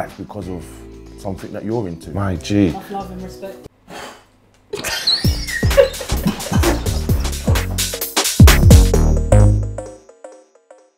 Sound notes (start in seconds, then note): 4.7 laughing; 5.1 blowing